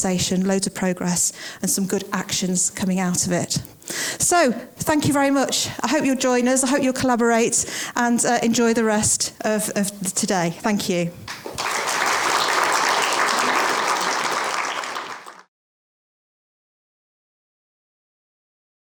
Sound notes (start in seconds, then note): 11.2 applause